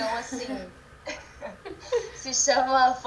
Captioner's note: laughs